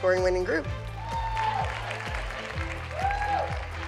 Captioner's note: whooping